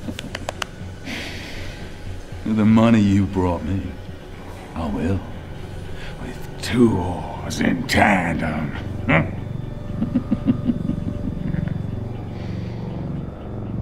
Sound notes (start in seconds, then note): 9.0 grunt; 9.8 evil Laugh